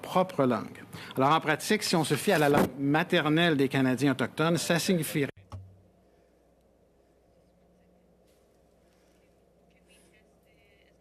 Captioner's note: speaking French